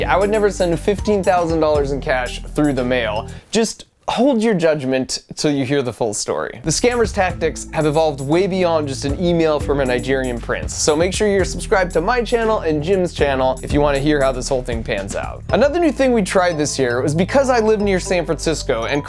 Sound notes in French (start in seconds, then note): none